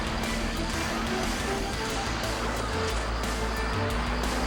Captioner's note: gunshots popping